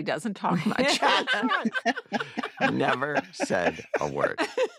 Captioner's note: all laugh